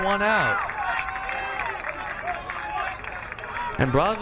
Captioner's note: crowd cheering